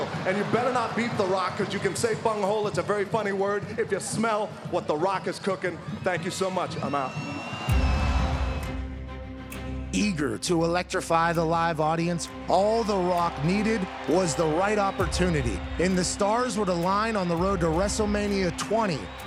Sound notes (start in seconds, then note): 7.7 crowd cheering; 7.7 tense music